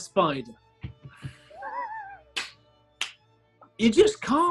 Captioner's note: sniggering and claps